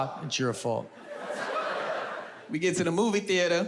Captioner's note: audience laughs